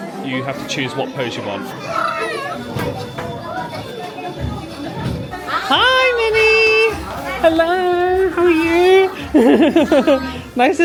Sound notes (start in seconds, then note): 4.0 guests chatting; 9.5 laughing